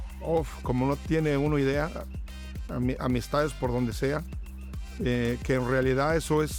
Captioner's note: speaking in a foreign language